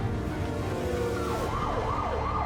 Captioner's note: sirens blaring